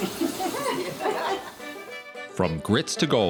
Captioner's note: laughing